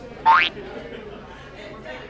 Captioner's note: boing!